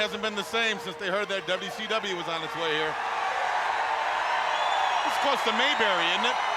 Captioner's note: crowd cheering